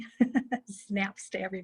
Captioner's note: laughing